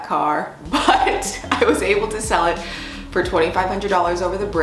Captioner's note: laughing